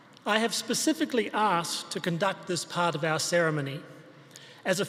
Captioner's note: none